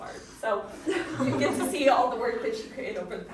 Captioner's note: audience chuckling